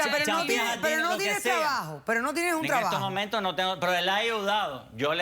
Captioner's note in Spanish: Hablan al unísono